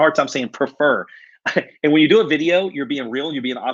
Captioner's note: laughs